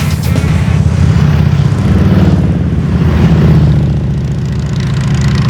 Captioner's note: motorcycle engines revving